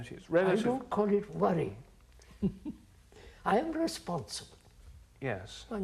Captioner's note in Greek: Γέλια